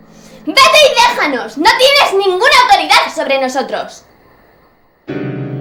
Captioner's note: screaming